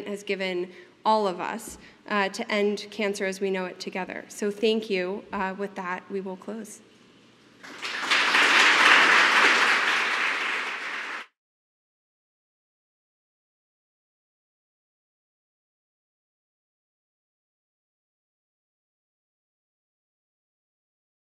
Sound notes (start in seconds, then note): 7.6 applause